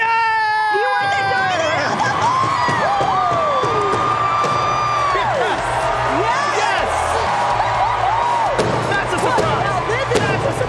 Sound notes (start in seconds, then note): 3.7 applause; 8.8 applause